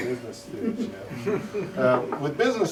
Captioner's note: laughter